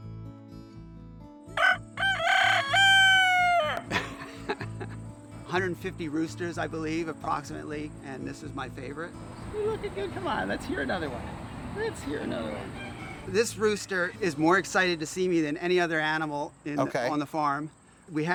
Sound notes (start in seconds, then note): 1.5 rooster crows